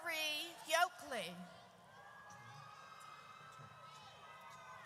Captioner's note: audience cheers